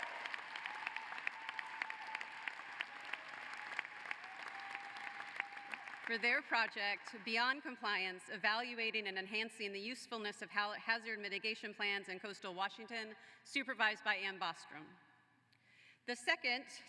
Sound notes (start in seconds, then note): 8.0 applause